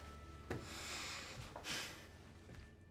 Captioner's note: sighs